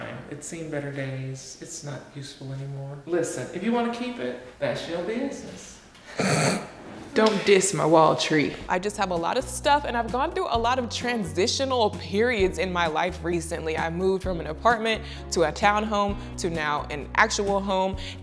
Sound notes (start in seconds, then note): 6.1 snorts